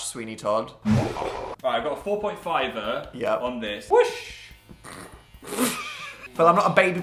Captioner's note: laughs